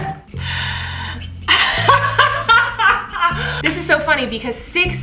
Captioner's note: laughing